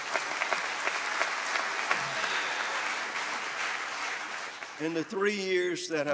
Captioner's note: applause